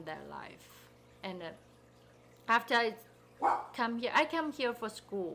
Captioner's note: dog barking